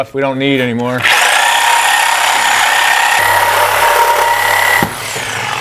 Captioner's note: saw buzzing loudly